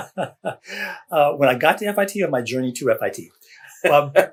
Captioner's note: laughs